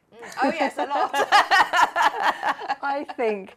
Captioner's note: laughter